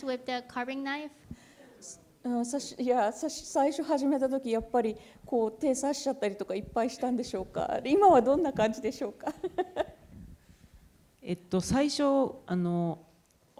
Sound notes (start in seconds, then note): 2.4 laughs; 2.4 speaking japanese